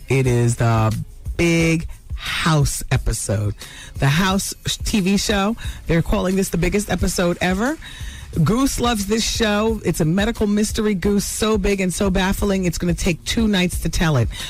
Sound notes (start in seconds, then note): none